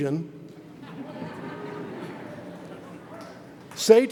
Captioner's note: audience chuckles